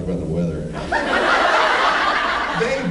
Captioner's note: laughs